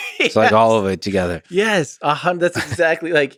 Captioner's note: Tim laughs